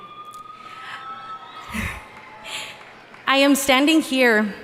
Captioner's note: audience cheering and applauding